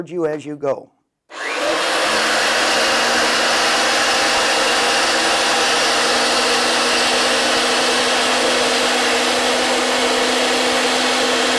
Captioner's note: RIDGID® 916 Running